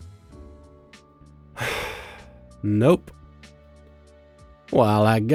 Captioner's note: sigh